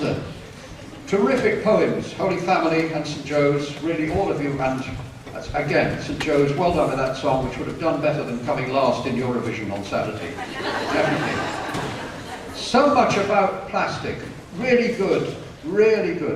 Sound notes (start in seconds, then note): 10.3 laughter